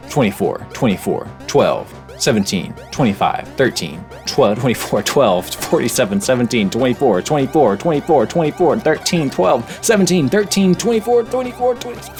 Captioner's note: coughing